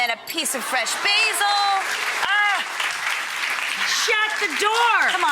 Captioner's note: audience clapping